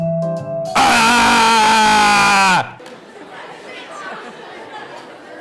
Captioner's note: screams